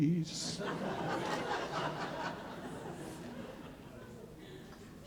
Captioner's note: audience laughing